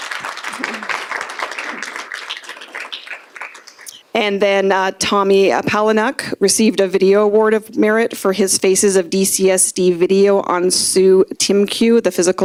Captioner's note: applause